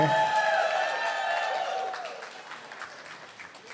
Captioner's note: cheering